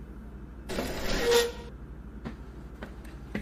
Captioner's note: chair scrapes